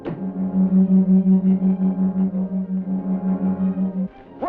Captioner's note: loud whirring